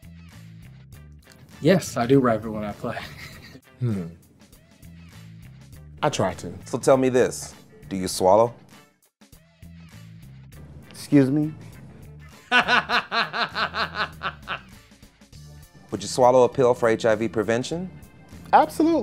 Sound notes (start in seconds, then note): 12.3 laughter